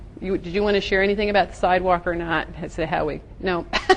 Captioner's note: gently laughs